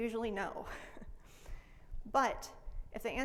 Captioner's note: laughs